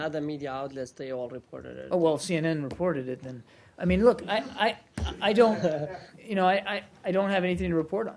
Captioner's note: laughter